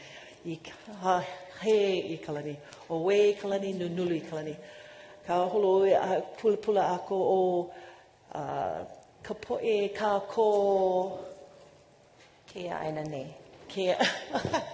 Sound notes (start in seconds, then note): 0.6 speaking non-english